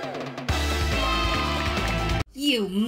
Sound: cheering

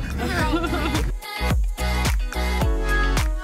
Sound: laughs; dance music

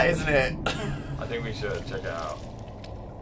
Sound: laughs

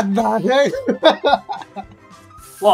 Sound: laughs

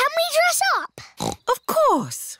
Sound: snorts

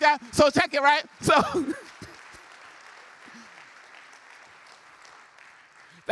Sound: applause

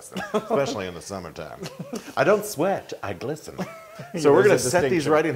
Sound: laugh

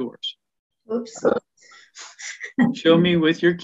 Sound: laughs

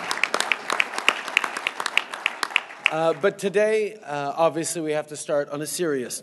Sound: applause

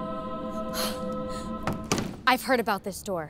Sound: angelic chord plays; gasps

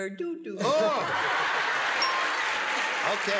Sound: applause

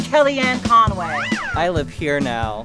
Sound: ascending whistle

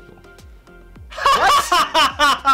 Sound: laughing

